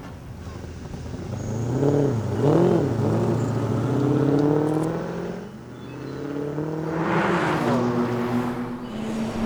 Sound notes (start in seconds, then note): 1.7 engine roaring